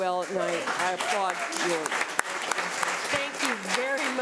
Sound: audience applauding

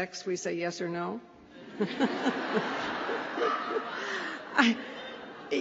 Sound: laughter

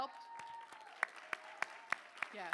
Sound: cheering

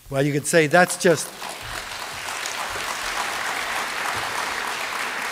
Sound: applause

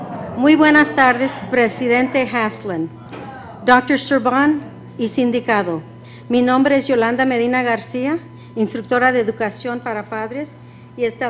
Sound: speaking foreign language

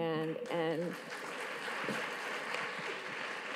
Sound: audience claps

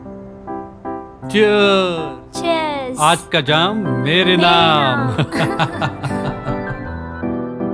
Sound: everyone cheering and laughing

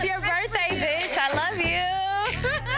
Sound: laughs

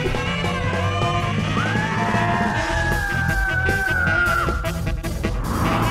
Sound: yelling

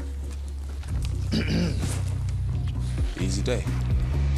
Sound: Joe clears throat

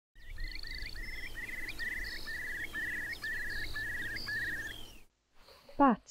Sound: sound of a curlew and skylark calling

